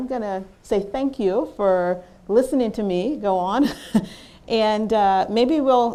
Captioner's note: laughs